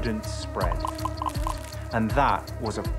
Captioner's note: mosquito buzzing, corn popping